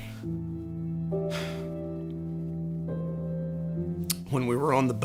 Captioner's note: exhales sharply